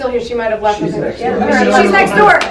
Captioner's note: male Voice